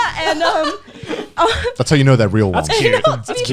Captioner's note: laughing